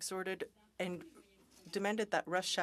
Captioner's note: speaking French